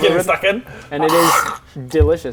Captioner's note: crunch